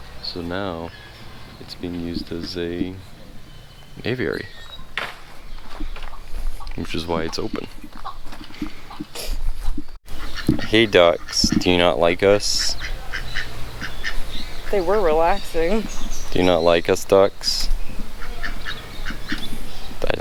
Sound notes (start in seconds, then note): 8.4 ducks quack